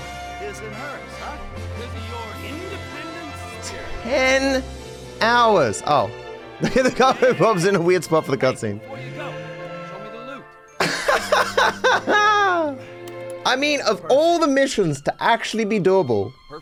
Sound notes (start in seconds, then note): 10.8 laughs